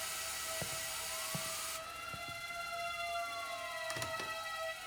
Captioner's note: sirens wail